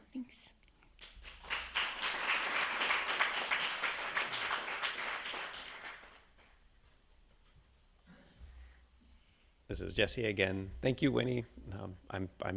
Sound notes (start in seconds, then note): 1.0 attendees applauding